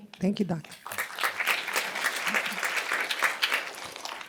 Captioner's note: applause